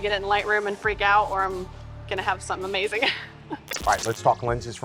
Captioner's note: laughs